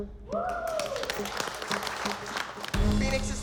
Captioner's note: clapping